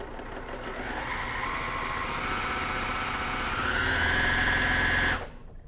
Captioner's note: sewing machine whirring